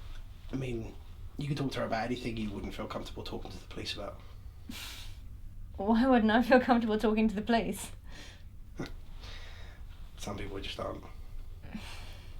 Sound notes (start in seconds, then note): 8.8 laughs